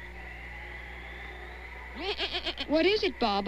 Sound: baa-aa

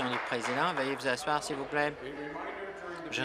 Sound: applause

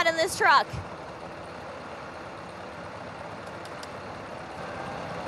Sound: truck engine rumbling

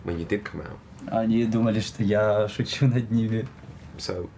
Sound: speaking in foreign language

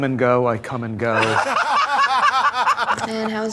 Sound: laughter

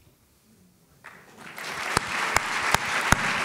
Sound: applause

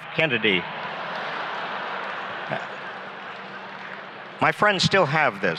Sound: laughs

